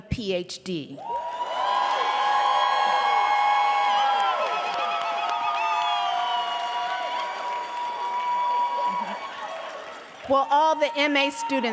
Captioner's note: audience cheering